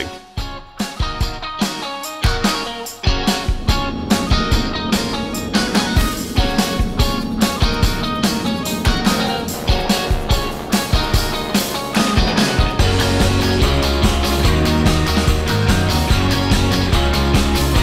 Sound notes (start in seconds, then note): 0.2 upbeat indie music; 9.6 planes buzzing